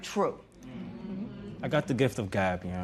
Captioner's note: spectators murmur